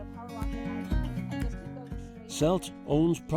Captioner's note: chatter